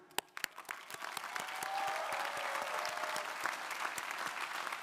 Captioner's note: crowd applauding